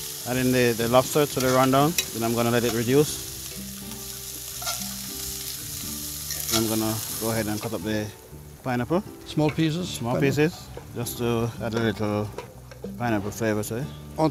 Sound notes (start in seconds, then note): 0.0 light guitar music; 3.4 pan sizzles